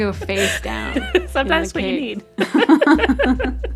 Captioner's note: laughter